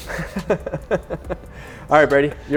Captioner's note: laughs